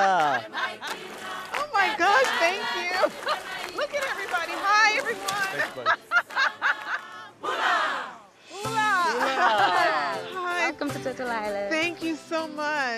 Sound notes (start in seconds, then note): 7.1 laughing